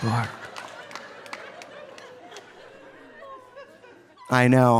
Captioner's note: audience applauding; audience laughing